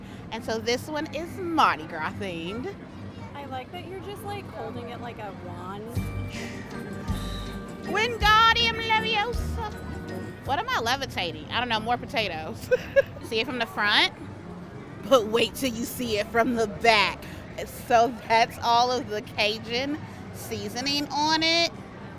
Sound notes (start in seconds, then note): 6.0 dramatic music; 12.6 laughing